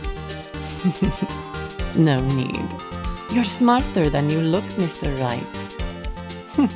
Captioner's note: chuckles